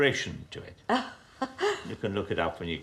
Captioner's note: woman laughing